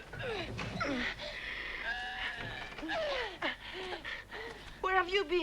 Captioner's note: Tracima grunting